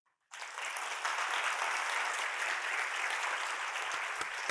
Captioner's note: crowd clapping